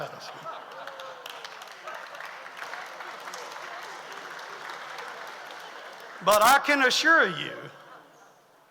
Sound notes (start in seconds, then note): 0.1 audience laughs; 0.4 audience applauds